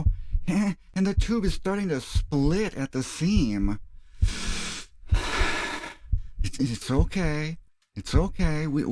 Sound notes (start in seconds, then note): 0.0 heartbeats; 4.0 heavy breathing; 4.1 heartbeats